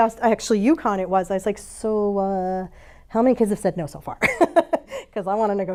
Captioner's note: laughs